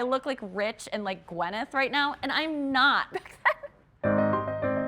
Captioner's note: chuckles; piano music